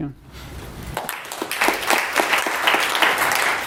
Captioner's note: applause